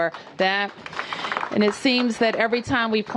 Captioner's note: applause